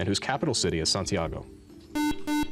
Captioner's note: beep